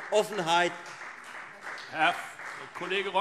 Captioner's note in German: Beifall Freie Demokraten